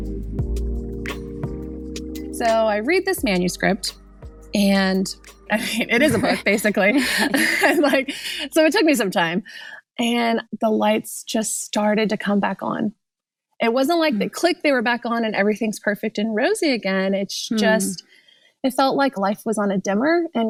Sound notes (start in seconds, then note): 0.1 gentle music ends; 5.6 laughs